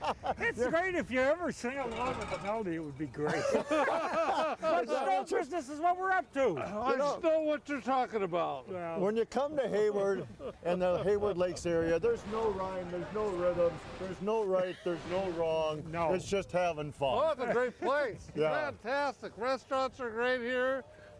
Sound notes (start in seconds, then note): 3.2 all laughing